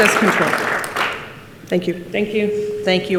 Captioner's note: participants clap